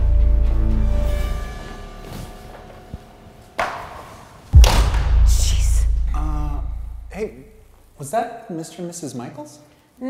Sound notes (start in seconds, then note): 4.5 door slams